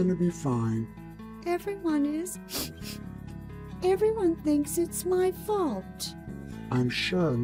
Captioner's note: sniffle